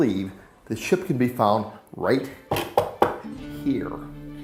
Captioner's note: knocking